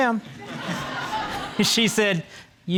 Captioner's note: all laughing